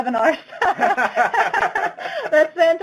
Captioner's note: laughs